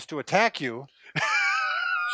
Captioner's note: laughter